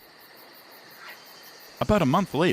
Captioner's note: crickets chirp